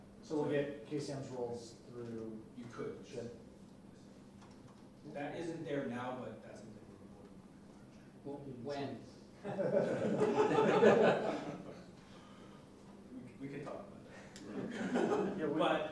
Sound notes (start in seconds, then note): 9.5 audience laughing